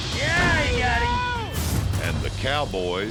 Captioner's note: falls down